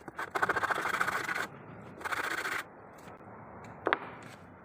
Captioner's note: sanding